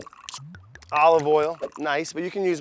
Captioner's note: oil glugs